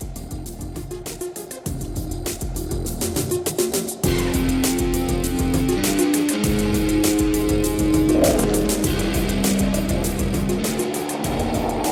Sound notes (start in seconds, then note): 7.6 skateboard rolling